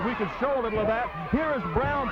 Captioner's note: blows thudding